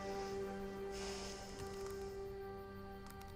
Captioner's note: sighs